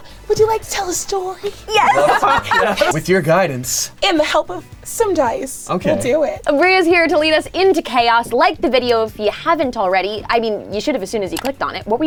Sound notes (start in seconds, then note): 1.7 group laughing